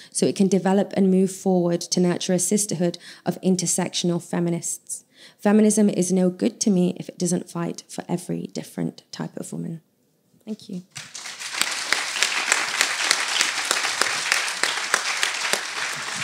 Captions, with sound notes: so it can develop and move forward to nurture a sisterhood of intersectional feminists. Feminism is no good to me if it doesn’t fight for every different type of woman. Thank you (applause).